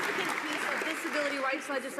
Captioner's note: some applause